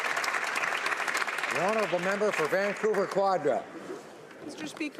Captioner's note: some Applause